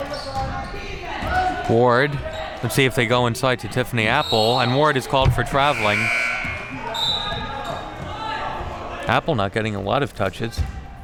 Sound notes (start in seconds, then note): 5.2 buzzer buzzes; 5.4 whistle blows